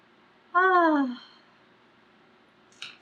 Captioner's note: sighs